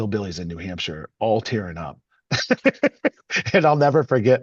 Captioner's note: laughs